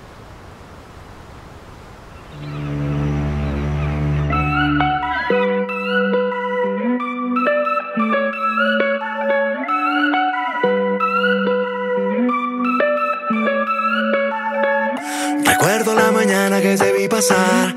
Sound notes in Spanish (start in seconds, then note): 0.0 oleaje; 2.2 silbato de embarcación; 4.0 música alegre